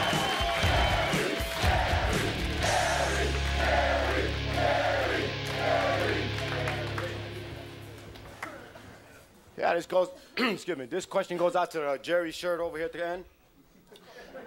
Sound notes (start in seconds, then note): 0.0 audience cheering; 0.0 edgy music; 10.3 man clears throat